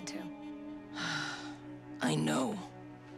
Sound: sighing

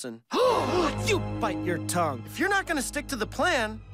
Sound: gasps

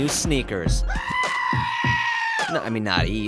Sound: man screaming

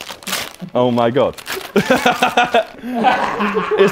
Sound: laughs

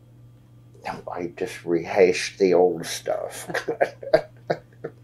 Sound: laughs

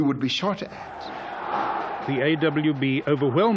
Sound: yelling

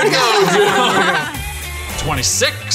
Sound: laughing

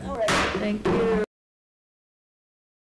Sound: gavel bangs

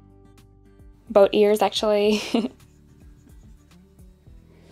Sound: chuckles

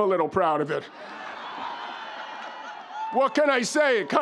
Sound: audience laughs

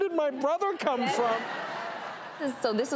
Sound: audience laughing

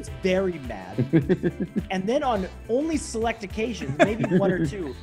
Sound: laugh

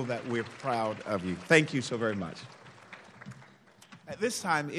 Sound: applauding

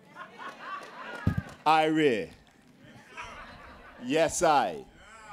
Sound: cheering; laughter; speaking jamaican

